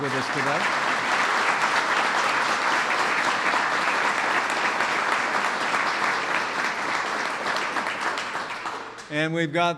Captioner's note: applause